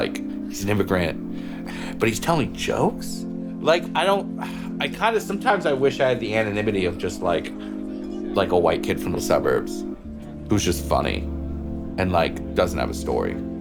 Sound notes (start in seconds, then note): 4.4 sighs